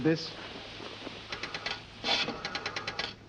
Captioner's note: dialing